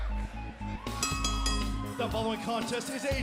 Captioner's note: bell ringing